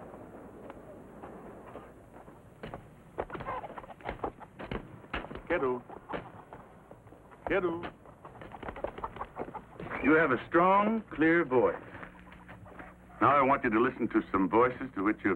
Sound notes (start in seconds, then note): 2.6 chopping sound; 7.4 chicken clucks